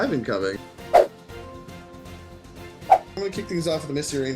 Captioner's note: whooshing